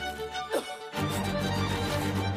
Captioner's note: cough